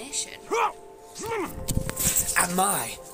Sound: constipated noise

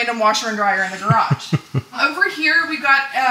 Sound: laughing

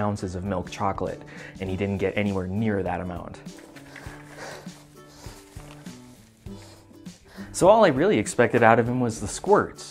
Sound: cleaning noises

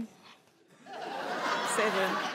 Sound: crowd laughing

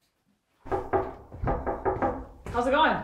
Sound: knocking on door

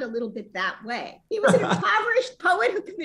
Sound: laughter

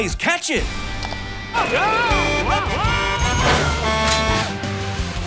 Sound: Blaze honking

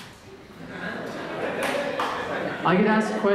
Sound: audience laughter

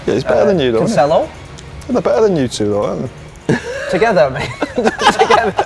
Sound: laughs

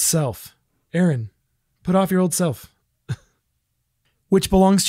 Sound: laughs

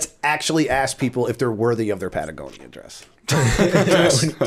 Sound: laughter

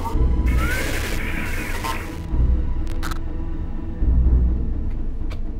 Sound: static phone connection

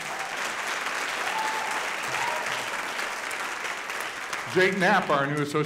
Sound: audience applauding

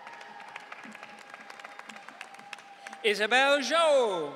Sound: audience cheering

